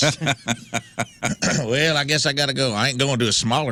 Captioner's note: laughing